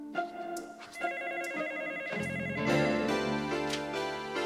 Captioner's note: gentle dreamy music; telephone ringing; gentle dreamy music